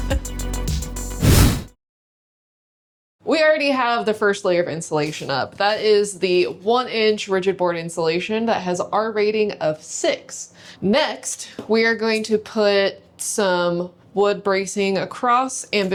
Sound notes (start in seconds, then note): 1.2 whooshing